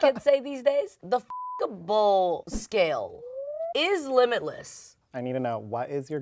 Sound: beep

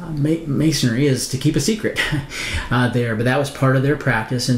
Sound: chuckles

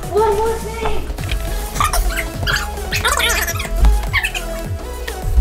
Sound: fast forward sound effect

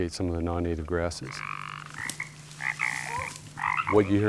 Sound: frog croaking

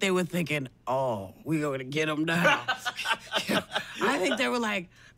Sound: laughs

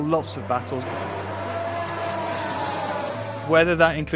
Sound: cars engines roaring

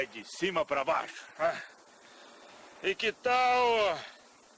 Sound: grunts standing up

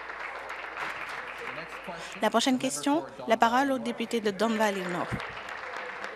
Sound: applause

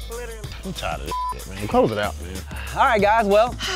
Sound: beep

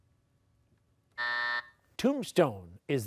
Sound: buzzer

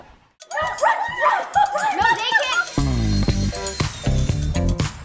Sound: laughing; shouting; upbeat music

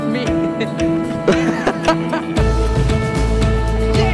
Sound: laughter

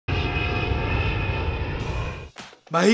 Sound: plane Sound

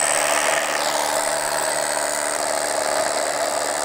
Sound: drill buzzing

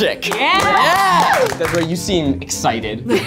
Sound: audience cheers

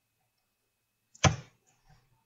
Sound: keyboard thump

